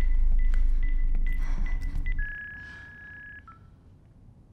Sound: chirping then beeping stops

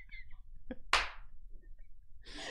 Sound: clap

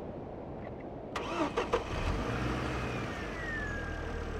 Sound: car engine starting

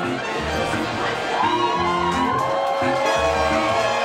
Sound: cheerful reggae music; cheering, applause

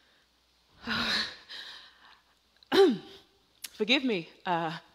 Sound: Myrtilla sighs

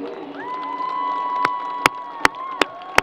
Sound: people cheering and applauding

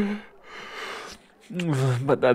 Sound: yawns

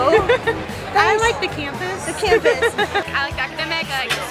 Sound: laughter; laughter

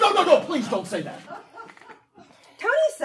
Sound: audience laughing

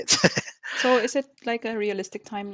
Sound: laughs

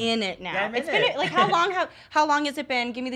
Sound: laughing

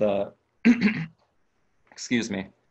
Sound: clearing throat

